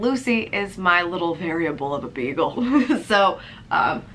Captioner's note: laughs